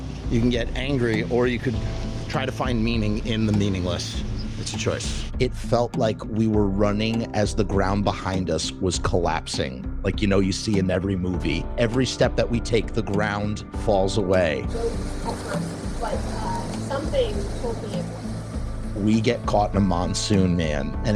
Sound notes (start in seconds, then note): 14.6 rain and wind